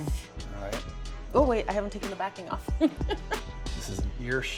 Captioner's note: laughs